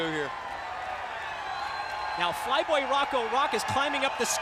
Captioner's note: crowd cheering